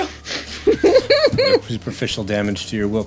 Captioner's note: laughing